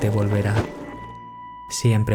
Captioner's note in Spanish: golpe